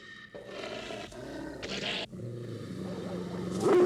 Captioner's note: dog growling; dog barking